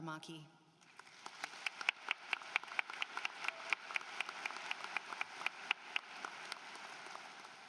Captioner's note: applause